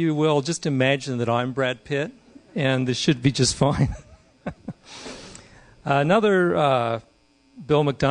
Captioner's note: laughing